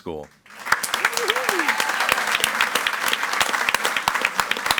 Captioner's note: audience applauds